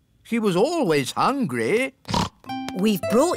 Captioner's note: snorts